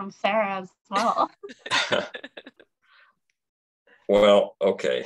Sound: laughs

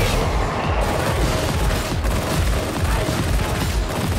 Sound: dark action music; guns firing

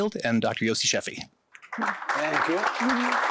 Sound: applause

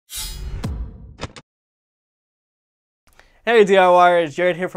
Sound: metallic sound effect

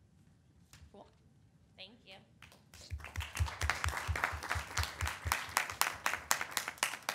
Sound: audience applauding

